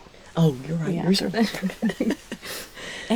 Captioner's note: laughing